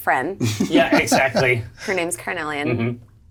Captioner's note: laughs